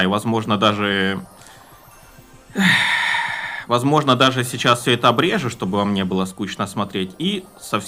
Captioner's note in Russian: вздыхает; тяжело вздыхает